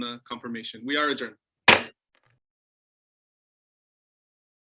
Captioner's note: gavel bangs